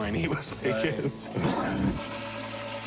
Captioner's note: toilet flushing